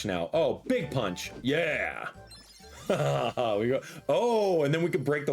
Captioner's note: laughs